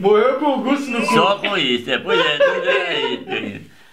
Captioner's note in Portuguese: risos